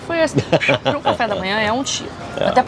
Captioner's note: laughs